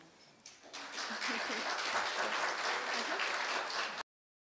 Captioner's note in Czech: potlesk